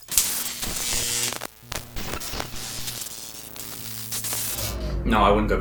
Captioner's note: buzzing sound